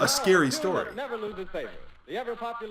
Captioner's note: radio